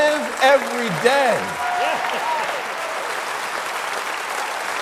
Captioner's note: crowd applauding